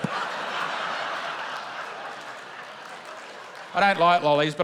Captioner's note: laughter